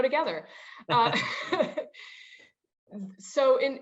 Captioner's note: laughs